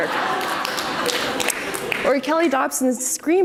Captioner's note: audience applauds